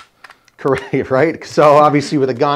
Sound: chuckling

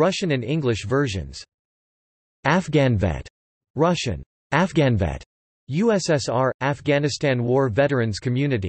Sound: russian: "Афганвет"

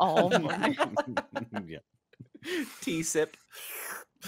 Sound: laughing

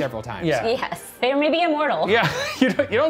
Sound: laughing

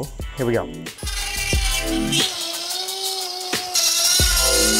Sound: drilling sound

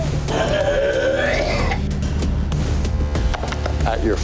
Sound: man barfing

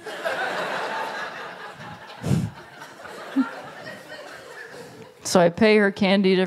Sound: laughter

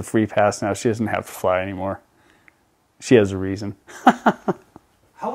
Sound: laughs

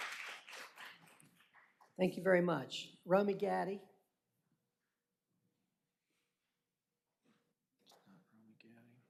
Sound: applause

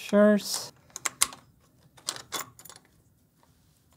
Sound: click

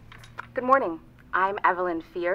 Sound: recorded Voice

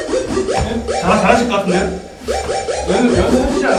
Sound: panicking

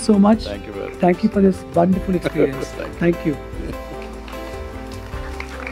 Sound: Sadhguru laughs

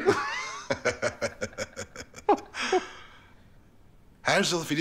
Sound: laughter

